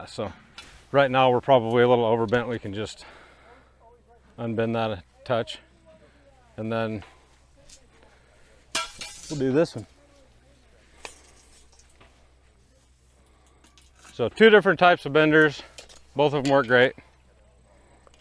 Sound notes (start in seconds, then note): 8.3 metal clanks